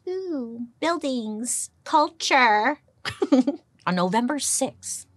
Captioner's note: giggles